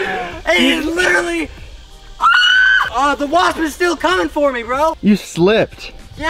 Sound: screams!

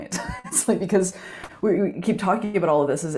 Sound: chuckles

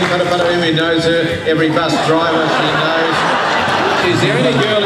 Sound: laughter

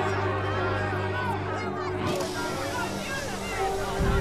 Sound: crowd ambience; car window being lowered

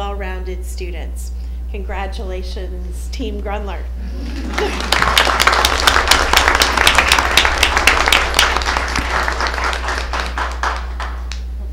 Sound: applause

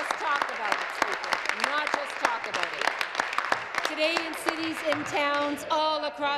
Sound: applause

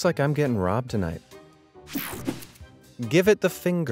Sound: transition zapping

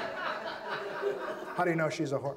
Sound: audience laughs

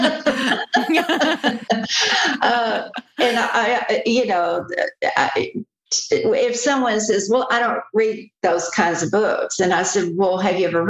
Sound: laughter

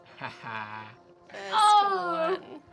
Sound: Gorgug laughs

